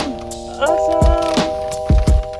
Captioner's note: laughs